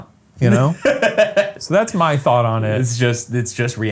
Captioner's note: Ryan laughs